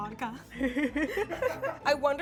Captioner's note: everyone laughing